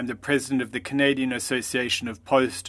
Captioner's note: speaking French